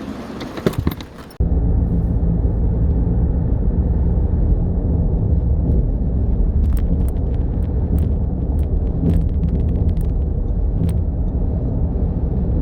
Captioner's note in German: Fahrtgeräusche